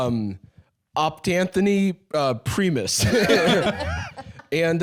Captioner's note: all laughing